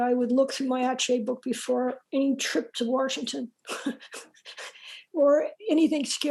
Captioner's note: laughs